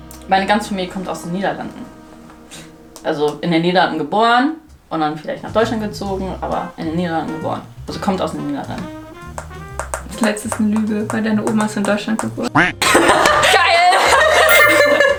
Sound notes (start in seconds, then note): 12.8 laughing starts; 14.4 beeping